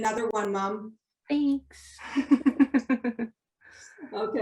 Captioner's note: laughs